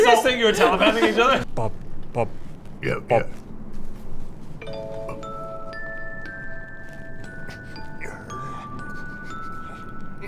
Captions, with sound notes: Did you guys think you were telepathing each other?! Bob...Bob yeah Bob *grrr*